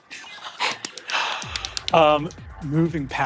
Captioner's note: players gasp softly